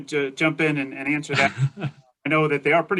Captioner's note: laughs